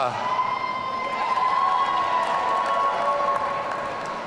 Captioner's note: audience cheering